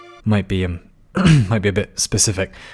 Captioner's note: clears throat